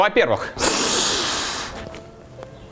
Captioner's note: sniff